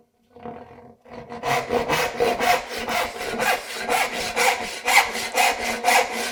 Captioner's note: saw on wood rhythmically rasping